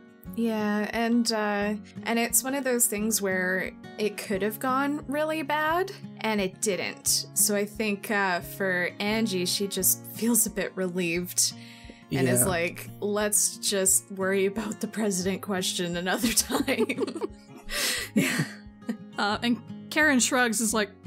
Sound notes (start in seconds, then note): 16.6 laughs